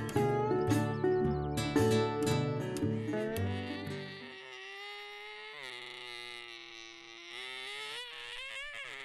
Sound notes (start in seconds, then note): 0.0 guitar music continues; 4.1 makes repetitive car noises